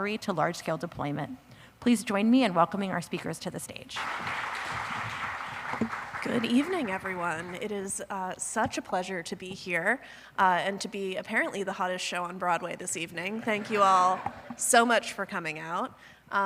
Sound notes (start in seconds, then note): 6.2 applause